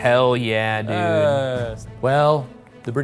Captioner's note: groaning